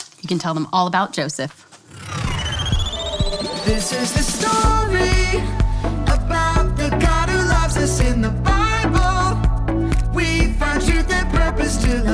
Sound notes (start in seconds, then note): 1.8 loud whooshing; 2.0 electronic chiming